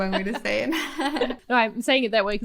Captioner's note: both laughs